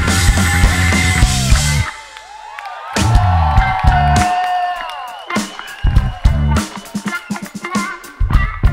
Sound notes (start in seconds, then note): 2.5 audience cheers